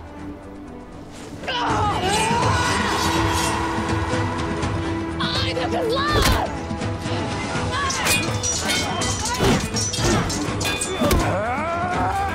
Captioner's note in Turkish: Çarpışma sesleri